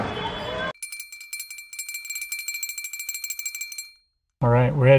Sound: bell ringing

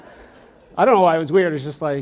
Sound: audience laughs

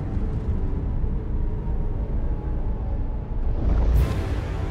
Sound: wind howling

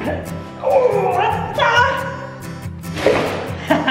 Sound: grunts

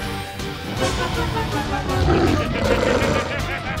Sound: growls; laughing

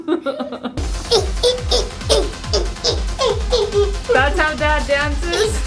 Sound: laughs; upbeat music; exclaiming

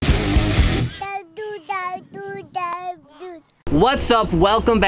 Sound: energetic music; child's Voice

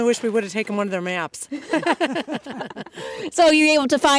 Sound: laughter

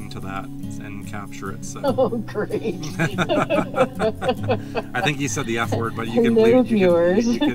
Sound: both laugh

